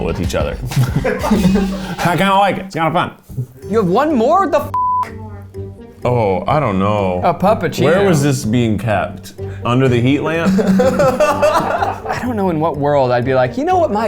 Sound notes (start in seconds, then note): 4.7 beep; 10.4 laughing